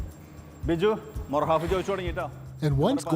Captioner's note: upbeat music playing; speaking in Arabic